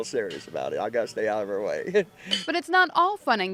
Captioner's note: laughs